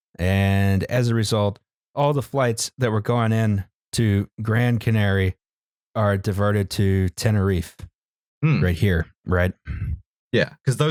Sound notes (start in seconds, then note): none